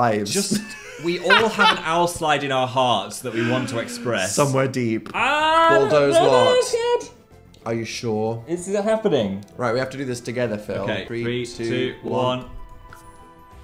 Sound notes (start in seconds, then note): 0.4 Dan laughs; 3.3 Phil groans